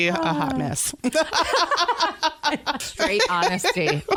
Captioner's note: laughter